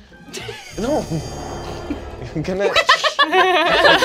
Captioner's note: laughing